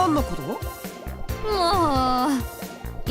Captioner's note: another exasperated sigh